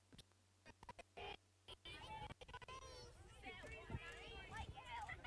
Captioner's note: children murmuring